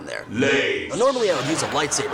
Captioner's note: deep Voice